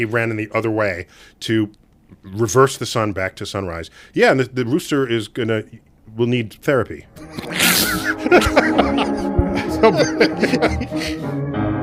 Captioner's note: laughs